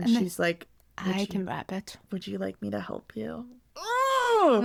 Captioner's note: groans